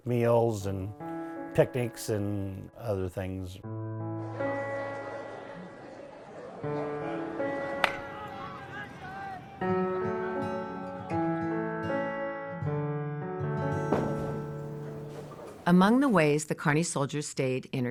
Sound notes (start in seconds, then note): 5.2 people chatter; 7.7 baseball bat clacks